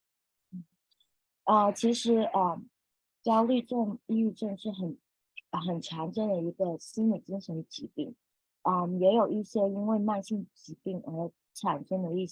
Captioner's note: speaking chinese